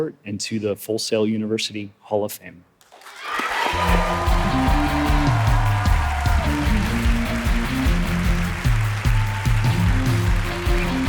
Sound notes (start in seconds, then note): 3.6 audience applauding; 5.4 audience cheering; 8.3 upbeat music